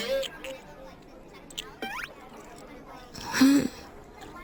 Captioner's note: chewing